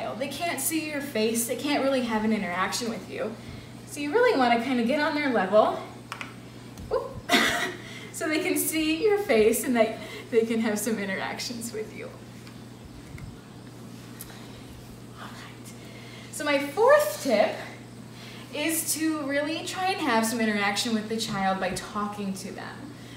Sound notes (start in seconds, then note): 6.9 laughs